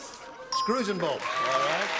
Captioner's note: beeping